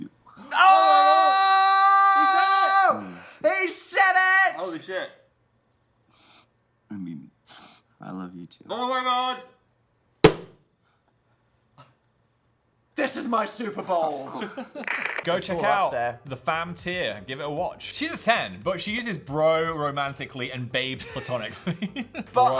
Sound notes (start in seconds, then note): 10.2 Dan slaps the table; 14.2 Phil laughs